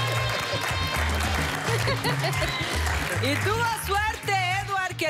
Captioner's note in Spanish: Aplausos; Risas